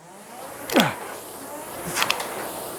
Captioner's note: grunting